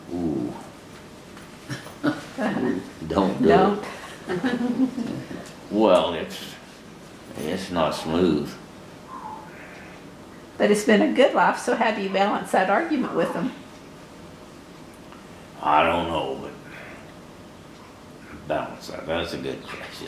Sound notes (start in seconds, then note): 3.8 laughs